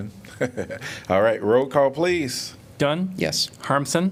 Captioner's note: laughter